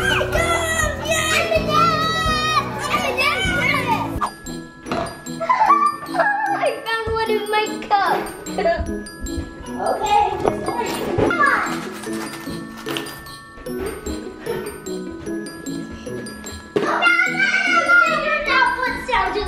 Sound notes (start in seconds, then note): 1.9 cheering; 4.3 playful bell music; 5.3 laughing; 11.1 rattling; 16.8 little girl yelling